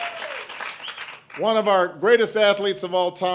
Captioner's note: applause